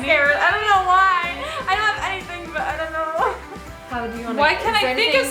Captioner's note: chuckles